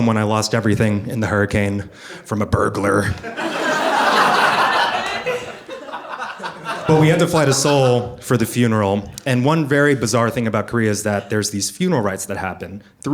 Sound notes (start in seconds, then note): 3.2 audience laughing